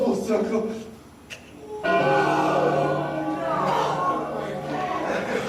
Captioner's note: bell tolls, audience gasps